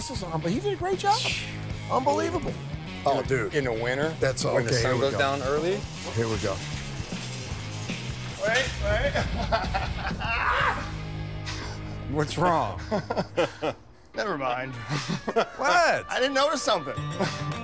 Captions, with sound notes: This is--he did a great job. Unbelievable. Oh, dude. - In the winter, when the sun goes down early. - Here we go. - Wait. Wait. [laughing] - What's wrong? [laughter] - Never mind. - What? - I didn't notice something.